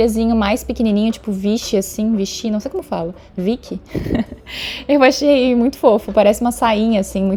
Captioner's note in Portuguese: risadas